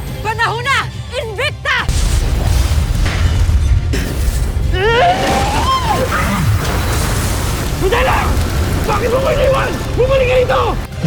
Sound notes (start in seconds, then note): 1.9 elemental whoosh-crackle; 2.4 screams; 6.5 grunts; 6.5 powerful blast-crackle